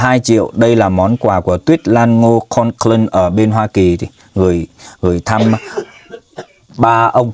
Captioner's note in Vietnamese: tiếng cười